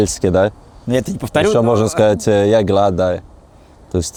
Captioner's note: speaks Norwegian